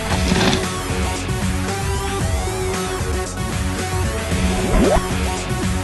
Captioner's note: body falls in dirt; zap